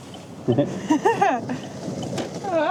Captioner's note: laughing